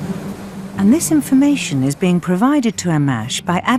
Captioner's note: voiceover